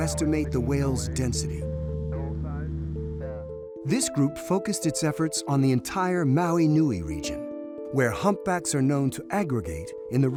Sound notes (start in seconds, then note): 2.3 gentle music; 2.3 radio chattering